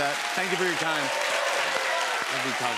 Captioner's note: cheers and applause